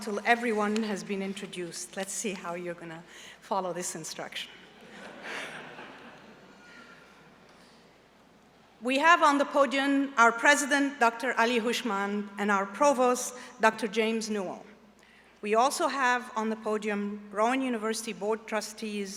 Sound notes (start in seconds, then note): 7.8 laughter